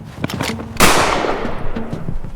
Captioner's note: gunshot